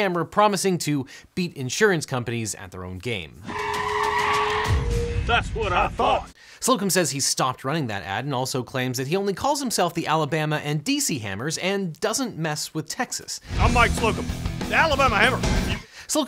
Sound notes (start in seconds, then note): 3.4 tires screech